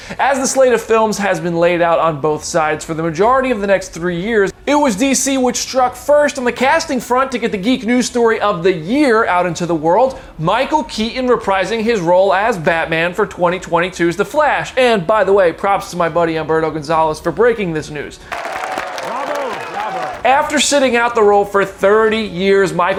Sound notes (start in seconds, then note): 18.3 clapping and cheering